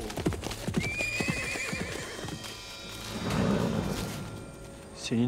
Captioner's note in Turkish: At kişneme sesi